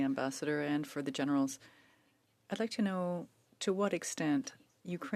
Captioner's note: speaking French